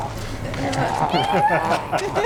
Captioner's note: laughter; growls playfully